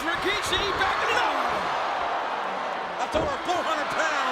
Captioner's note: spectators cheering